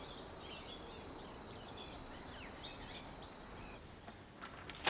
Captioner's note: birds chirping continues